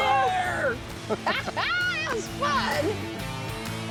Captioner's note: laughs